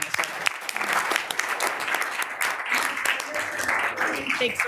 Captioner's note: group applauds